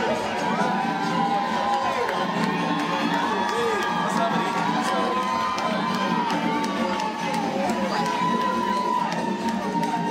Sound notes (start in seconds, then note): 0.0 cheering